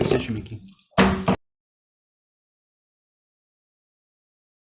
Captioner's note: gavel bangs